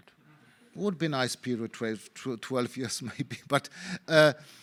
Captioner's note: chuckles